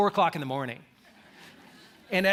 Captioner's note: laughter